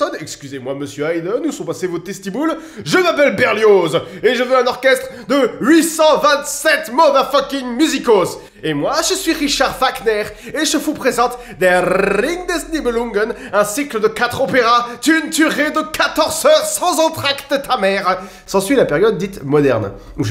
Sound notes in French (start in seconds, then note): 8.4 Accent Allemand